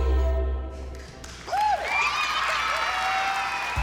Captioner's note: cheers, applause